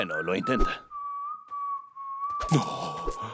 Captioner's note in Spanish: Silbido imponente